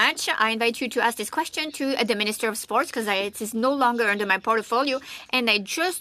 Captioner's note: speaking French